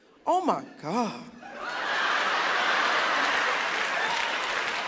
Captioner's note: audience laughing